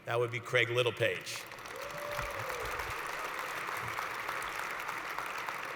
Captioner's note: applause